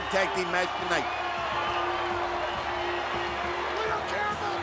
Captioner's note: crowd cheering